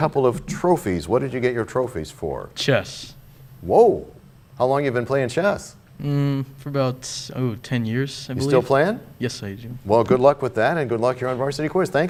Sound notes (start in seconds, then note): none